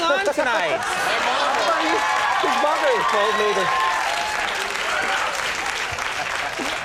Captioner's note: audience cheering drowns out speaker